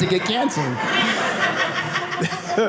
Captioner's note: audience laughing